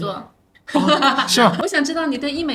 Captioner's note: laughter